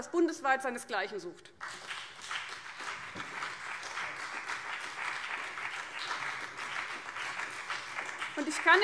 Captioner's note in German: Beifall BÜNDNIS 90/DIE GRÜNEN und vereinzelt CDU